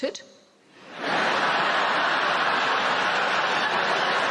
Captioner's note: crowd laughing